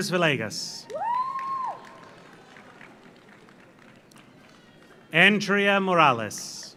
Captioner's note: audience cheers; audience applauds